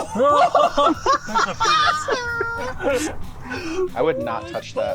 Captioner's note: hikers laughing